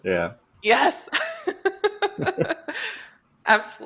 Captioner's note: laughter